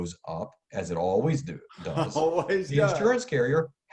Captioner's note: laughs